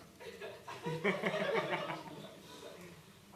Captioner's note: laughter